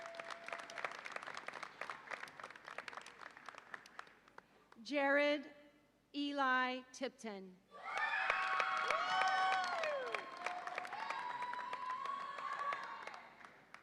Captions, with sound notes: (audience applauds) Jarod Eli Tipton. (audience applauds and cheers)